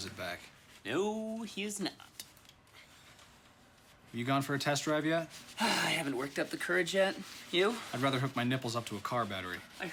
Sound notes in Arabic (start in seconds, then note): 5.6 تتنهد